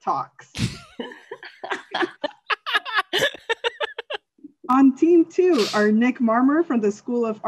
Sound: laughter

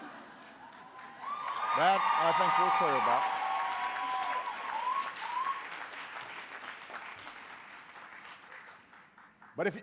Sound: laughter and applause

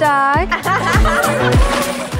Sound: water splashes

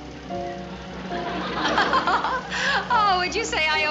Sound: chuckling

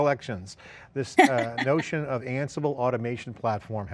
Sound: laughs

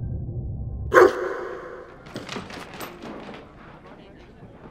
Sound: barking

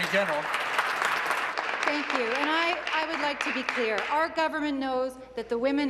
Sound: applause

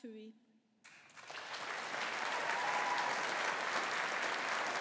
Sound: audience applauding

